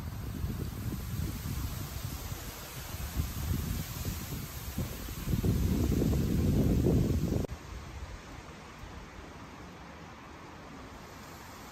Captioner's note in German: Windgeräusch